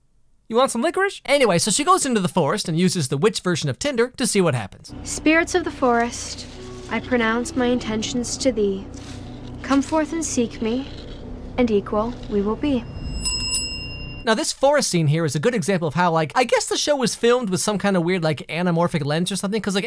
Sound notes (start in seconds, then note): 12.7 bell rings ominously